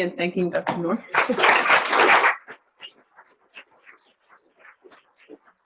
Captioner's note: audience applauds